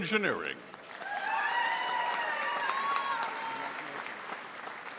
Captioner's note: audience applauding